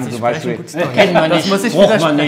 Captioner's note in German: Lachen